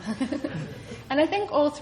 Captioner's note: chuckles